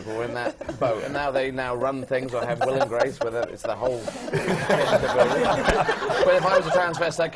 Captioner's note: laughter